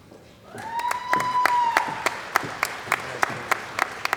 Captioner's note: cheering & Applause